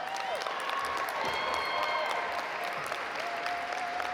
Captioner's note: audience applaud